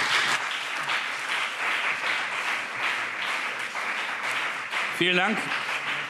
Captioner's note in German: Beifall CDU und BÜNDNIS 90/DIE GRÜNEN